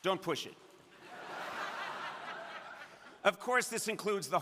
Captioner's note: crowd laughing